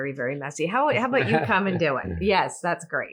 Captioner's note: laughs